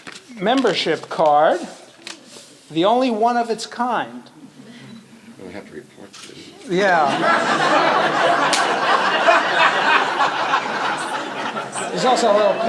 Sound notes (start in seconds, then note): 6.8 laughter